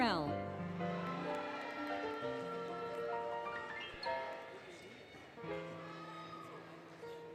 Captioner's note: applause, Cheering, Music